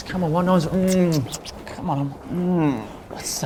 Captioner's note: kissing noises